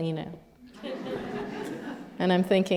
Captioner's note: laughter